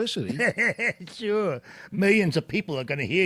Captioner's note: laughs